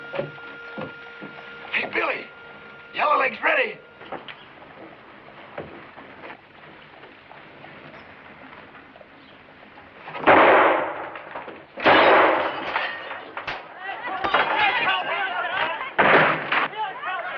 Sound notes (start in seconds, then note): 10.2 gunshots; 13.7 shouting and gunshots